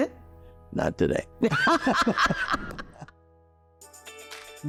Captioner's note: laughing